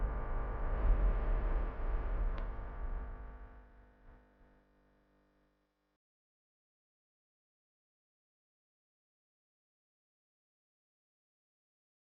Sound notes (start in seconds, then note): none